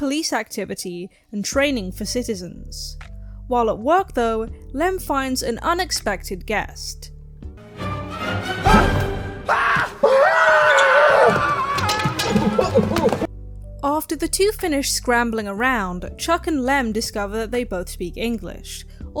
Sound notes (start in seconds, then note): 7.5 Chuck and Lem scream and scramble away